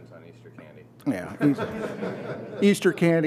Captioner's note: laughter